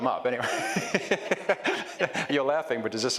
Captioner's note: laughs